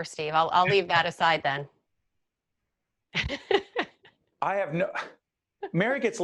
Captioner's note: laughing